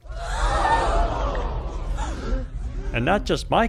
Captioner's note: crowd gasping sound effect